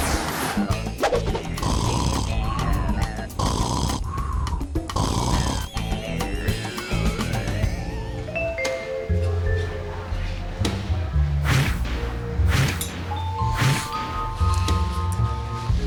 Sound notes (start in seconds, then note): 0.8 energetic music; 1.2 snoring; 8.2 elevator music